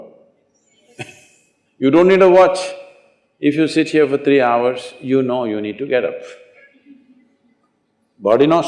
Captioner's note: laughs